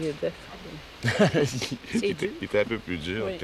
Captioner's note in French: rires